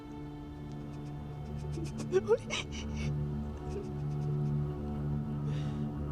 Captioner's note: dark orchestral music; Ora sobs